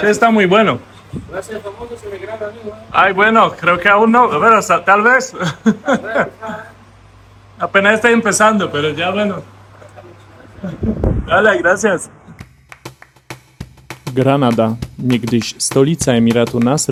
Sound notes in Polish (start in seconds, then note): 5.3 śmiech